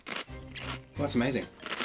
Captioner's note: lettuce crunches; lettuce crunches